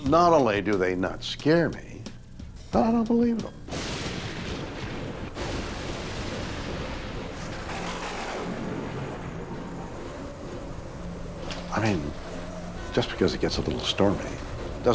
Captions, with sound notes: Not only do they not scare me, I don't believe them. (thunder crashes) (slow eerie music) Just because it gets up a little stormy